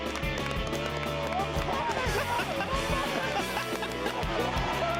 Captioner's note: further cheering and laughter